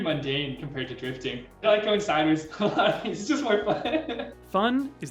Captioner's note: laughing